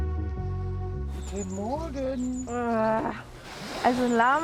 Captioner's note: annoyed groan from the tent